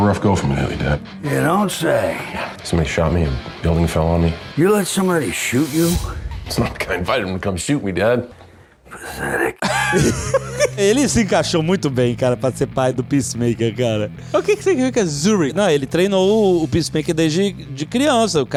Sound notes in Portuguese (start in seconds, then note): 9.5 risos